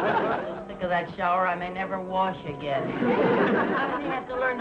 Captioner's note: audience laughing; audience laughing